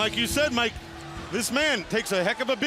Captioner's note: bell ringing